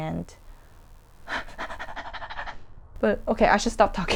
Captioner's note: hyperventilates